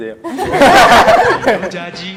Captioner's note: laughter